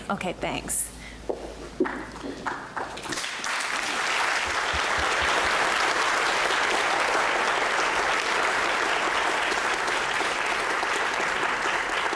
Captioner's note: applause